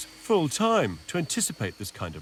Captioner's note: machine whirring